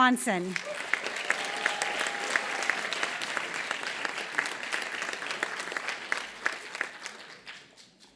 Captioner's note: applause